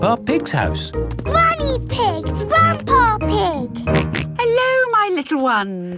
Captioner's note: snorts